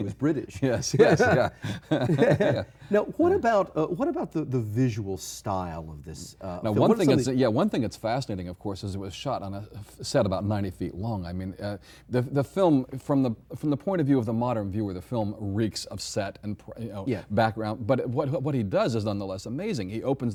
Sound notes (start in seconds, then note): 0.6 both laughing; 3.4 chuckles